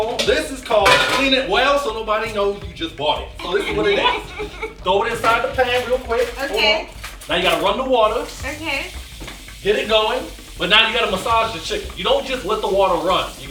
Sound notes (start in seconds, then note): 3.3 laughing; 8.8 water running